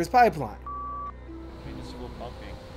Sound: beeps

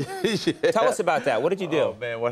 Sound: laughing

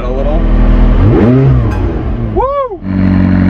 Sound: engine revving

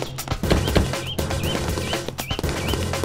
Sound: door closes

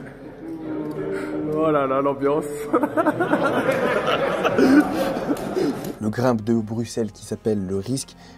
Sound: laughs

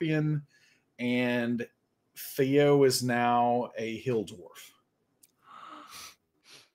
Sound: gasps

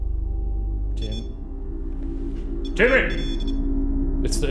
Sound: REM-Pod beeping

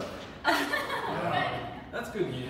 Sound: chuckling

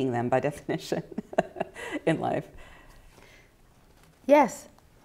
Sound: chuckling

